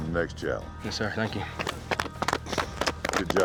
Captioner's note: everyone clapping